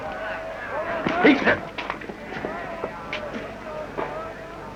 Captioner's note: grunting